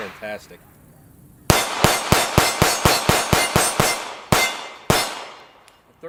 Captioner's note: gunshots